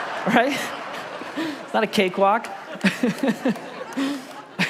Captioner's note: congregation laughs; laughs